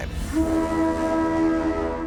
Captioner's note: horns blowing